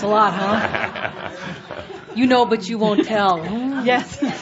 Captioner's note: laughter, chuckling